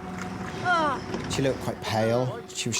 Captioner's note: soft tense music; whimpers